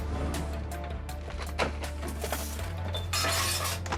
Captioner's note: tense music; objects clattering